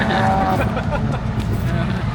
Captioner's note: laughing